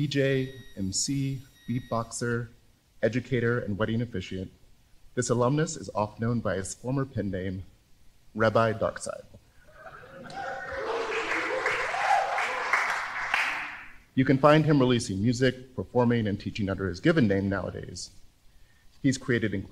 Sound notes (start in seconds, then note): 9.8 applause and cheers